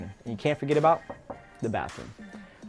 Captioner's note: knocking